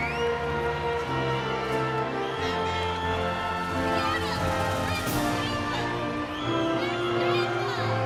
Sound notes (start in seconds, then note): 2.4 cheering continues; 2.4 inspirational music